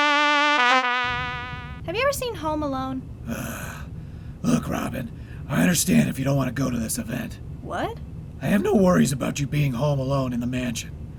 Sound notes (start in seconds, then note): 3.3 Batman groans